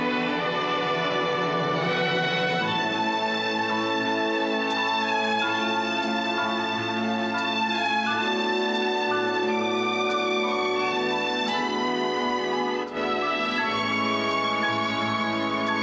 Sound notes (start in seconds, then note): 2.7 church bells ringing